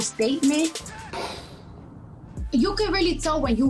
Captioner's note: explosion noise